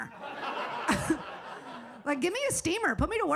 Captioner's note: audience laughs